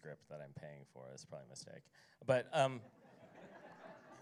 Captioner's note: laughter